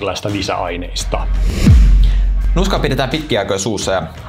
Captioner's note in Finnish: siirtymä-äänitehoste